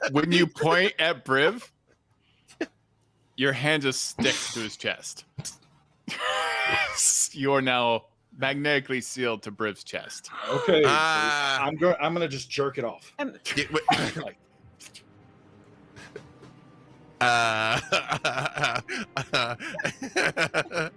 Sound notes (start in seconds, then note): 6.6 wheezes; 13.5 blows; 17.2 laughing